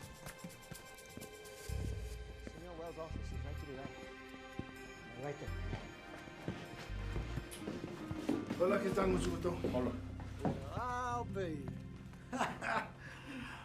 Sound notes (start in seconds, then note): 8.6 Roland speaking Spanish; 12.2 laughing